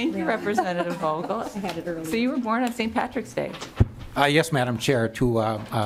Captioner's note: lauging